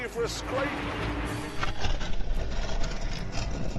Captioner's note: scraping